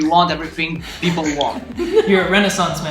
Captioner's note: laughing